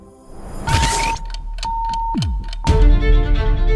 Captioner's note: audio beeping; clock ticking; tense music